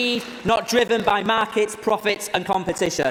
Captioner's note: applause